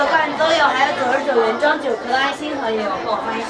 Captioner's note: speaking in foreign language